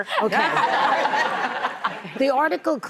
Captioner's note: audience laughing